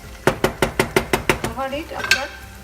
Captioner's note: spoon clanking